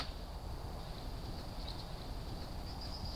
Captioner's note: none